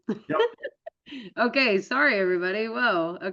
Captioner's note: laughs